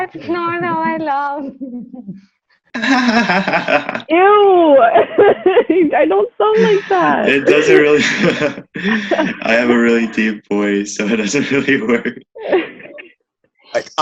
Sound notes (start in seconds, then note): 0.2 laughter